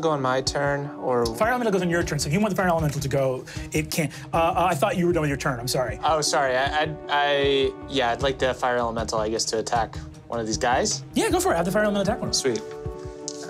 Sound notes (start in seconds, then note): none